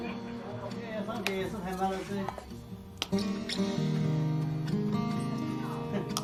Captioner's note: speaking in foreign language